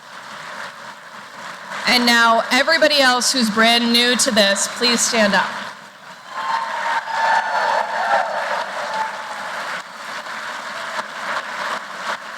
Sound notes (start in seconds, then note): 6.1 applause